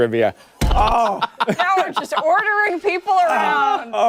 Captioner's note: laughter